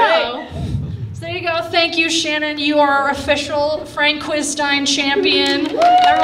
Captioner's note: riotous Applause